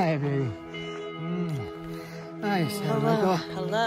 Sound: lips smack

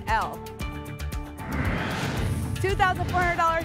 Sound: whoosh

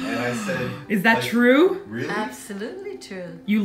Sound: gasps

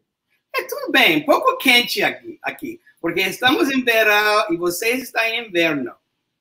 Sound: speaks portuguese

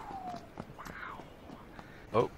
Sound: exhales; whispers

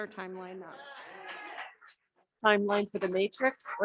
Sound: audience cheering

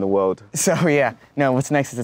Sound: laughs

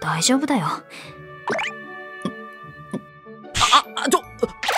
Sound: gulp gulp gulp

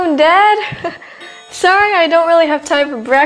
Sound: Amber chuckles

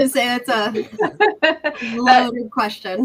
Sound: laughs

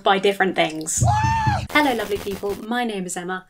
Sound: hysterical screaming

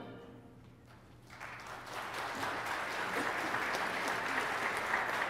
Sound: congregation applauding

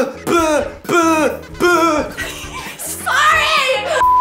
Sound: laughing

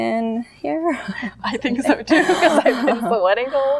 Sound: laughs

